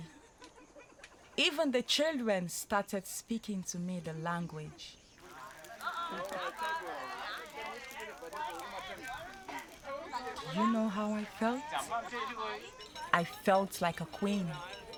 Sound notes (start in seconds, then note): 5.0 indistinct chatter; 5.9 fire crackling; 11.1 chattering